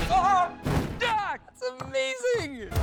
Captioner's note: shouts